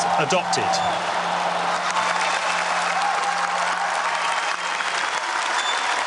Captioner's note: cheers and applause